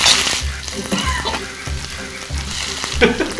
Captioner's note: coughing